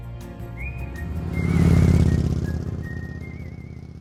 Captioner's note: bike engine revs